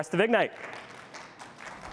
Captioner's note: applause